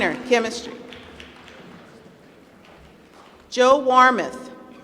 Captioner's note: applause